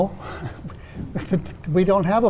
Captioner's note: chuckling